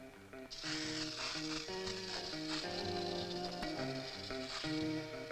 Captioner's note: spritzing